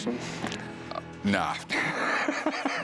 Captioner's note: laughs